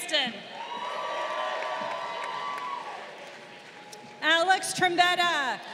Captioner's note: crowd cheering